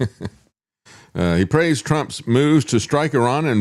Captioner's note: laughs